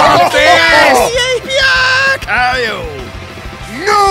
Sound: cheering

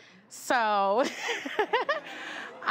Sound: laughing

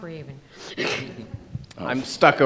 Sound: laughs

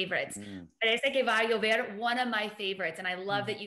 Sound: speaking in foreign language

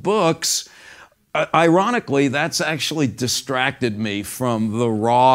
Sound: none

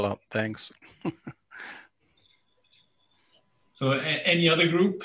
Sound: laughs

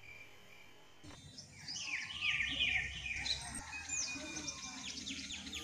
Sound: bird chirping

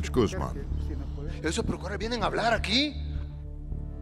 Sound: speaking Spanish

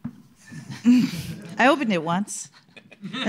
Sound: laughter

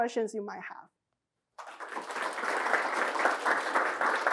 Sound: applause

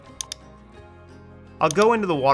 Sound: mouse clicking

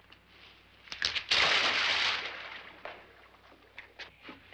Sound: splash

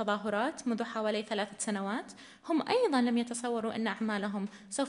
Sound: in arabic

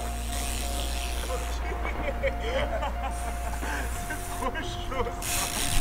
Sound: laugh

